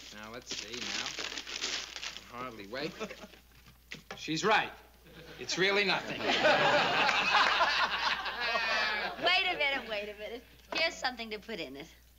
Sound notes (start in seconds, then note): 5.9 laughter